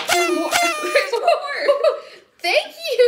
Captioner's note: surprise sound effect